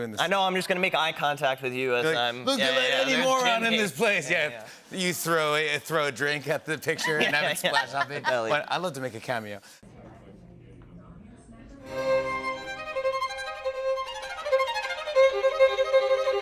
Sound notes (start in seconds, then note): 6.9 laughter